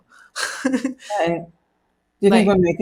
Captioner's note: laughs